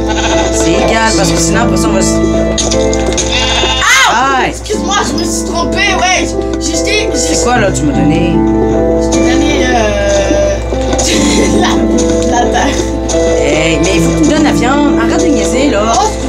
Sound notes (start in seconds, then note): 2.1 screams; 10.9 laughs